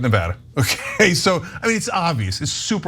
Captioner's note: laugh